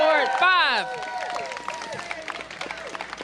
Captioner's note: applause